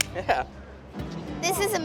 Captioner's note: hands slap